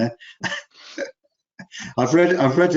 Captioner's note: laughs